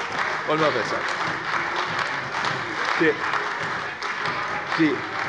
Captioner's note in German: Heiterkeit und Beifall bei der CDU